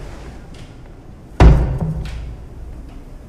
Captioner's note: knock